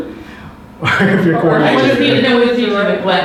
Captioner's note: laughs